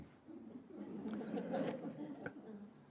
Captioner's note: audience laughing